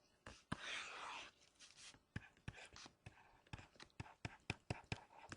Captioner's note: stylus writing on board